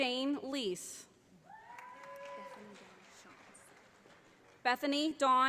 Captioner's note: audience applauding